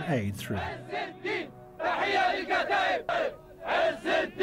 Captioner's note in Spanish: cantos y gritos